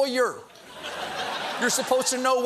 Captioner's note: laughter